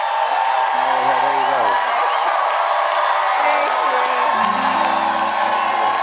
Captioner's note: cheering